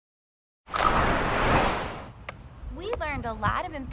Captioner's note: whooshing